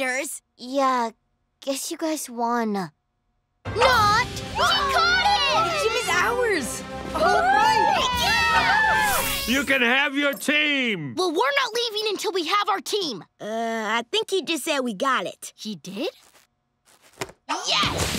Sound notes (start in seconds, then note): 7.1 cheering